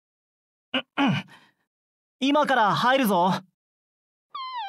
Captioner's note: cough